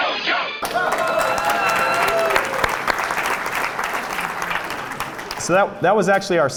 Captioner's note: applause